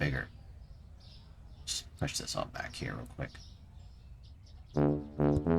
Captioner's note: talking to self